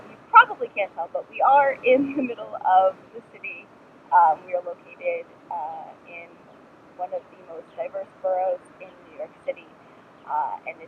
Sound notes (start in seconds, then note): 1.9 laughs